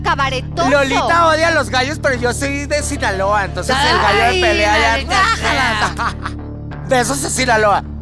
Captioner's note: lola groans